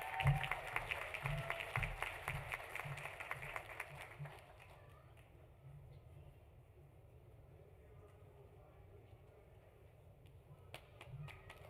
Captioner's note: applause